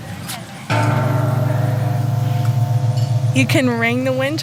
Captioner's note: bell tolling